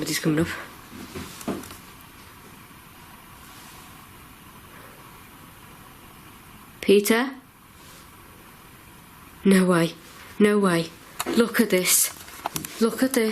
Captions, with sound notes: Okay, somebody's comin' up. (tapping) Peter? No way, no way, look at this, look at this.